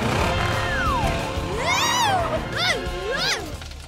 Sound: screaming

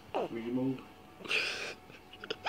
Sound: laughs

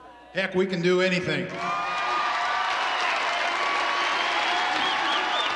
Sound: all applauding; all cheering

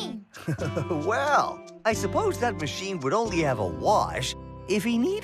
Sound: chuckles

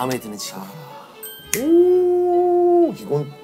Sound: exclaiming

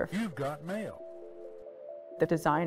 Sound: automated Voice

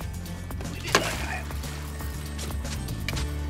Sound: splashing; upbeat music

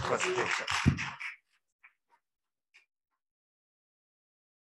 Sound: applause

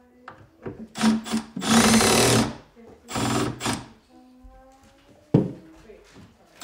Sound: woman murmuring discernibly in other room

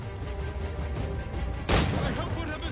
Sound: gunshot

